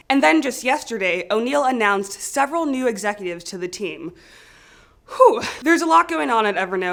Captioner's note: takes a deep breathe